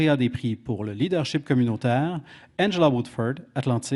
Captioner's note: speaking French